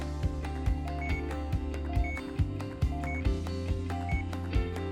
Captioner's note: heartbeat peeps